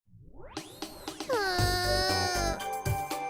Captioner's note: groan